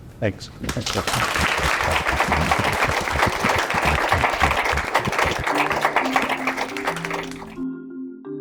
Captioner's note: applause